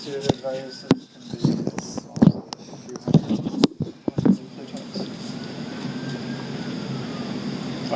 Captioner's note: microphone static